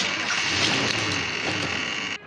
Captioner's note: car engine starting